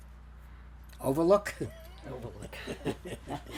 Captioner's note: laughing